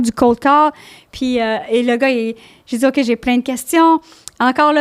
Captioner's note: in french